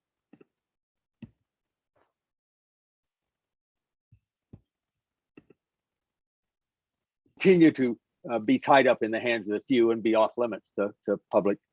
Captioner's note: no sound